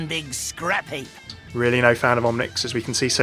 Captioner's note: voiceover